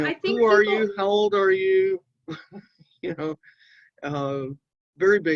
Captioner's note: chuckling